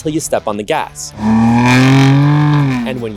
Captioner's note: engine revving